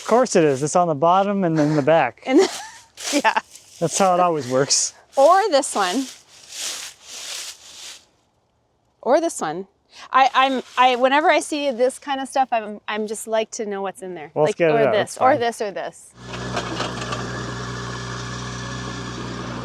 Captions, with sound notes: because I- - Of course it is, it's on the bottom and then the back. - (chuckles) Yeah. - That's how it always works. - Or this one. (leaves crunching) Or this one. Whenever I see this kind of stuff, I just like to know what's in there. - Let's get it out- - Or this. - that's fine. - Or this or this. (tractor rumbling)